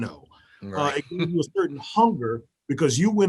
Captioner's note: murmurs